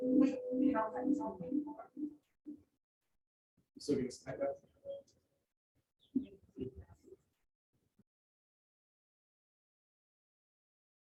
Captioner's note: sound re-muted